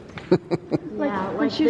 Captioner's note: laughing